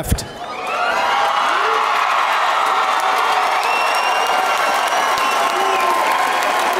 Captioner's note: audience cheering and applauding